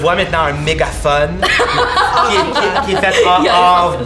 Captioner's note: laughs